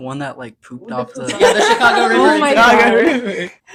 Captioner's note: laughing